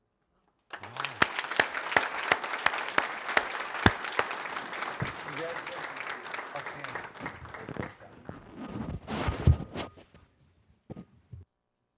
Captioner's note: applause